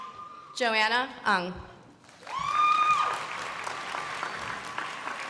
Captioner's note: crowd applauding